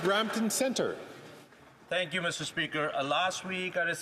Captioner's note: some Applause